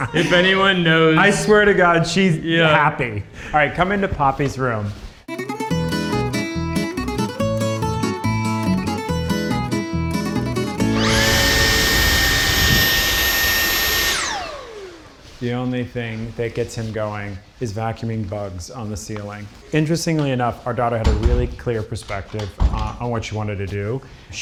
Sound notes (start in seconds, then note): 10.9 vacuum wheezes